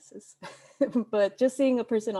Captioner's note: laughs